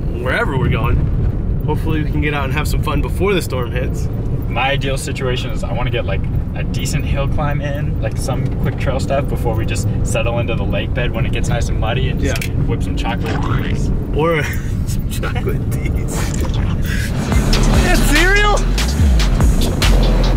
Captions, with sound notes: - Where ever we're going, hopefully we can get out and have some fun before the storm hits. - My ideal situation is I wanna get a decent hill climb in, like some quick trail stuff before we just settle into the lake bed when it gets nice and muddy and just whip some chocolate Ds. (squirting sound) - Some chocolate Ds. (hip hop music) Is that cereal?